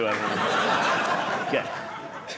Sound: audience laughing

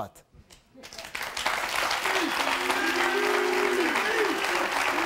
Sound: audience applauding

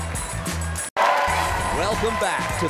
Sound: audience cheer

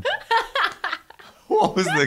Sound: laughing

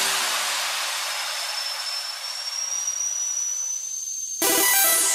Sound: music blast; high pitched noise; music blast

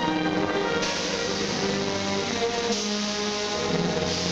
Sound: steam hissing

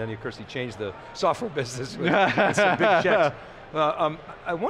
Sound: laughs

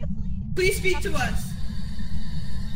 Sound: Spirit box static

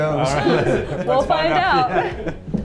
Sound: everyone laughing

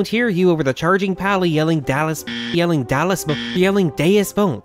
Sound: buzzer sound

